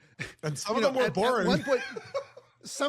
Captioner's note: laugh